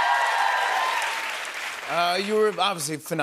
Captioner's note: cheers and applause